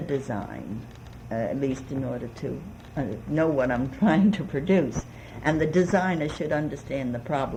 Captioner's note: laughs